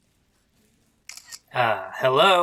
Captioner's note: silence